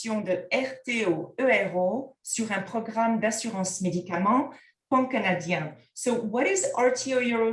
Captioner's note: content in French